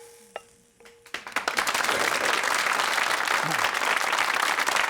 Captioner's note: audience clapping